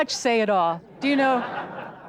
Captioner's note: audience laughter